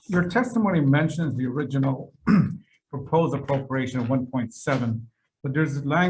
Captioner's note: clears throat